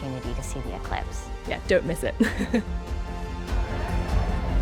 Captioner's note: laughs